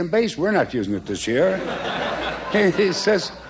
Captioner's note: laughter